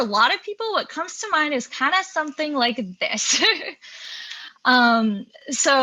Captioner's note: laughs